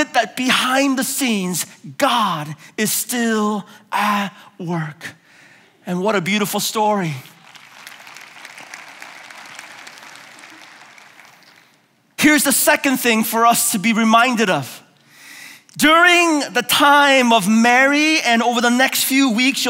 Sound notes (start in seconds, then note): 7.3 applause